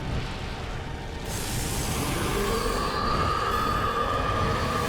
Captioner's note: roars